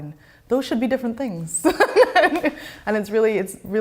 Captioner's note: laughs loudly